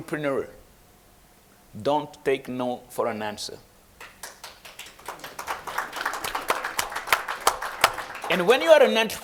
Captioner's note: applause